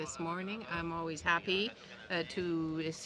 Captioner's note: speaking french